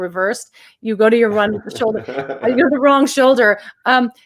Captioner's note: laughs